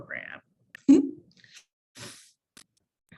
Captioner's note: chuckles